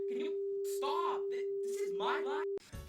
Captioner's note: double voice